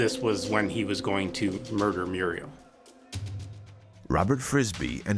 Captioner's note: cellmates yelling